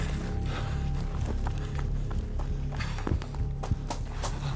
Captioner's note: running footsteps